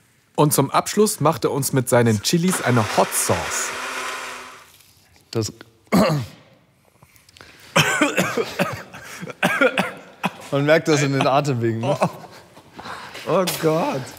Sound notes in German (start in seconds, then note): 5.9 Räuspern; 7.7 Husten